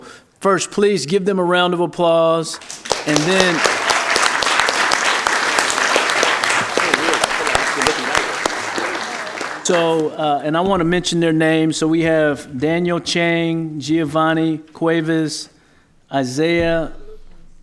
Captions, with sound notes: I THOUGHT THAT WARRANTED BEING IN THE DOWN TO CITY HALL AND TO IN THE DOWN TO CITY HALL AND TO RECOGNIZE THEM IN A VERY RECOGNIZE THEM IN A VERY SPECIAL WAY. SPECIAL WAY. SO, FIRST PLEASE GIVE THEM A SO, FIRST PLEASE GIVE THEM A ROUND OF APPLAUSE. ROUND OF APPLAUSE. >> [ APPLAUSE ] >> [ APPLAUSE ] >> AND THEN, I WANT TO MENTION